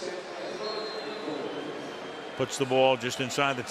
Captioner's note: pa announcement